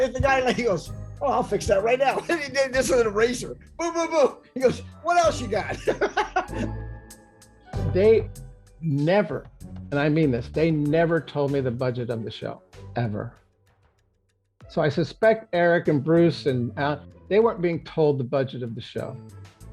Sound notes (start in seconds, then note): 5.6 laughs